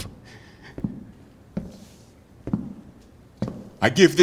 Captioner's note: footsteps